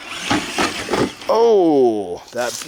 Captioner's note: car crashing; engine roaring